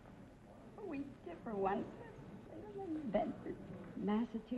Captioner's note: whispering